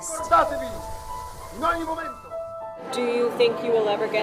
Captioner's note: Mussolini speaking in foreign language